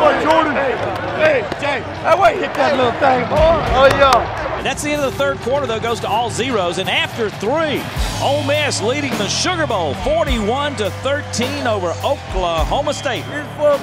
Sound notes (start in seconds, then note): 4.7 voiceover